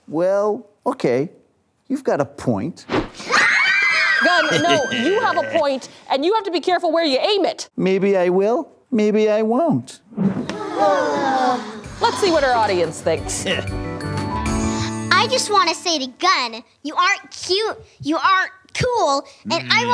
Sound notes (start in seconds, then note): 3.2 screams; 10.7 sighs